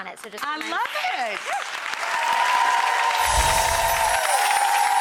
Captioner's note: audience applauding